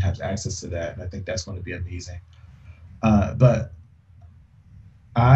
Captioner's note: laughs